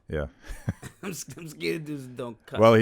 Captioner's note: laughs